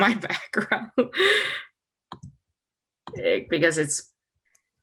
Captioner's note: chuckles